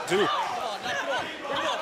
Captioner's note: crowd chatter